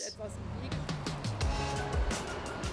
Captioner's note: speaking Foreign Language